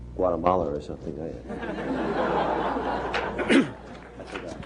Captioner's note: laughter